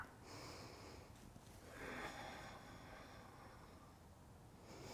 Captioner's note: breathing